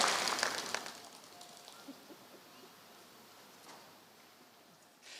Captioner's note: applause